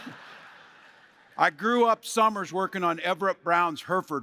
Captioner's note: laughter